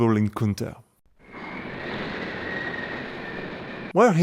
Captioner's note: wind sound